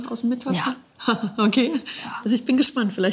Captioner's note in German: lacht